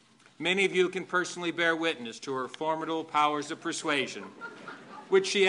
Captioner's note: laughter